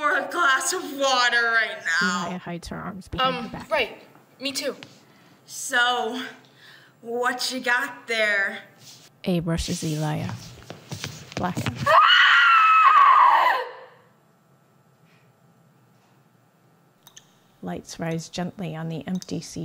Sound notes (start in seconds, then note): 11.8 scream